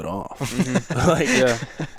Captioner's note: attendees laughing